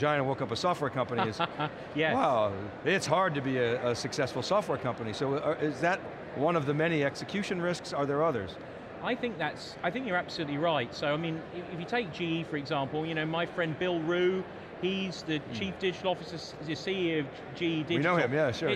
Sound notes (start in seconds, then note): 1.2 laughs